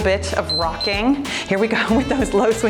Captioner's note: timer beeps